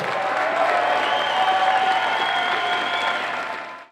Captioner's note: applause